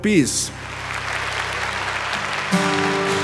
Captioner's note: applause